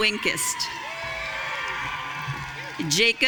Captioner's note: audience cheering